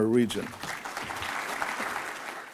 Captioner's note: audience claps